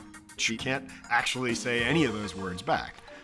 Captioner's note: none